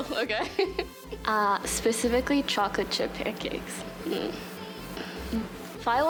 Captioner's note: laughs; pleased sigh